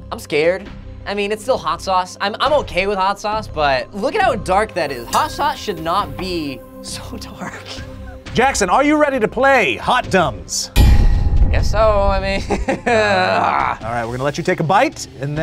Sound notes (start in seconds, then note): 7.7 laughs; 10.7 tense music; 12.4 laughs